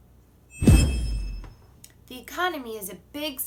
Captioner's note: whooshing